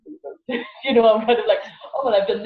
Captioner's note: laughs